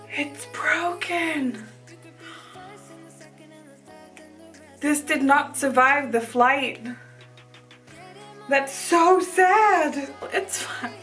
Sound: gasps

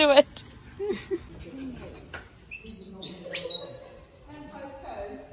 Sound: also still laughing; bird chirps loudly

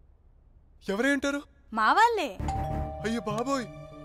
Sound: door bell rings

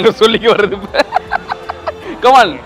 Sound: gives a cunning laugh

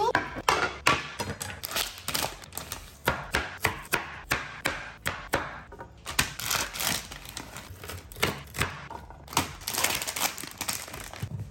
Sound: asmr chopping

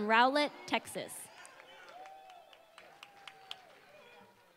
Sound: applause

